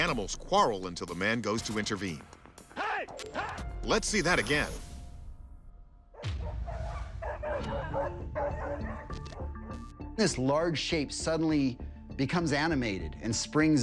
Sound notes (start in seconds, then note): 5.5 tense music; 6.1 barking